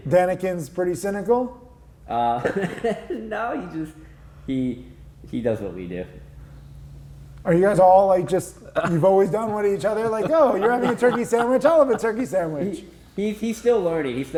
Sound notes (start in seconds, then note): 2.3 laughing; 8.7 chuckles; 8.7 laughing